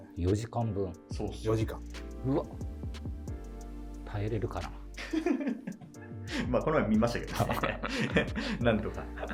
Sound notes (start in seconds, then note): 5.0 laughing